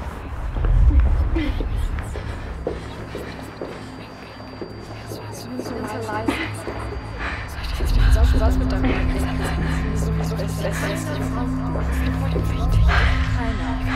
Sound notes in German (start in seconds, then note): 8.3 Kims Stimme flüstert; 10.9 Ronjas Stimme flüstert; 12.5 Schulles Stimme flüstert